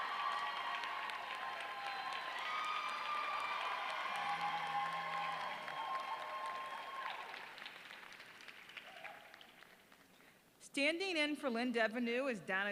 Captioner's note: applause